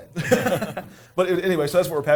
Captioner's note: laughter